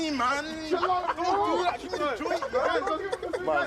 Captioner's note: overlapping chatter